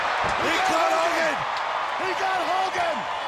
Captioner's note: audience cheers